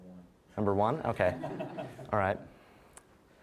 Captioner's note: audience laughing